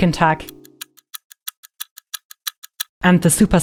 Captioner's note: clock ticks